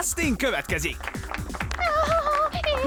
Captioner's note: cheering